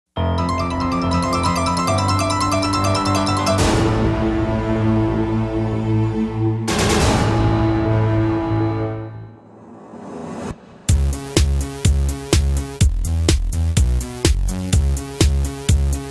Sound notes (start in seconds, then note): 0.5 upbeat music; 9.4 air whoosh